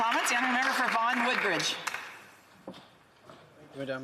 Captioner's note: applause